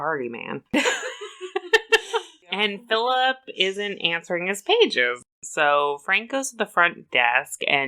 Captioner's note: laughs